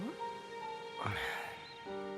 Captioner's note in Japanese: ため息